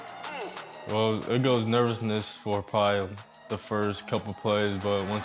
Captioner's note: cheers